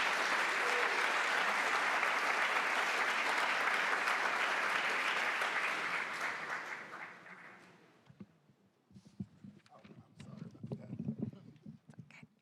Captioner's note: applause